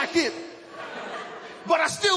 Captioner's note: laughter